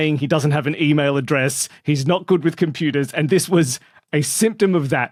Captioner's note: none